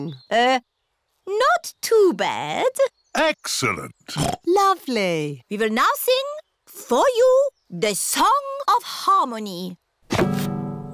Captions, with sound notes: Er... Not too bad. -Excellent! (OINKS) -Lovely. We will now sing for you the song of harmony.